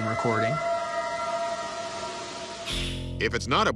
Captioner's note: eerie howl